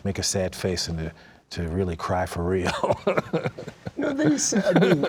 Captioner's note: laughs